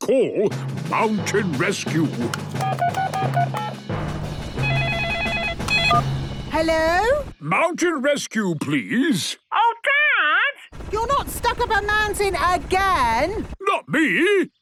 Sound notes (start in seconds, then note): 4.6 phone ringing; 4.6 phone beeping